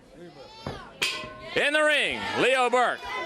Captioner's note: crowd chatter